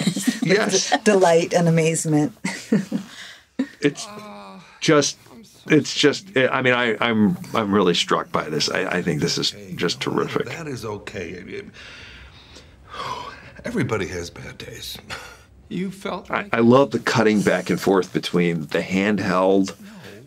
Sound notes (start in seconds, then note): 3.6 chuckles; 11.8 exhales sharply